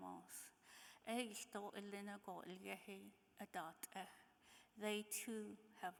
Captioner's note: speaking in foreign language